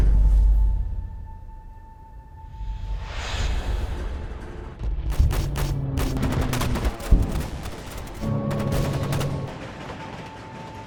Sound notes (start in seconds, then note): 0.3 pensive music; 5.1 gunfire popping